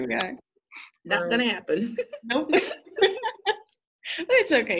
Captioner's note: laughter